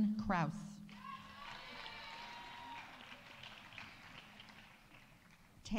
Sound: audience cheering; audience applauding

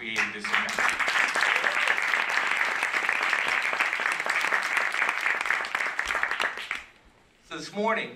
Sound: applause

